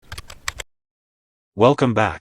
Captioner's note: typing